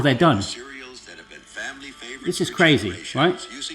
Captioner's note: voice On Phone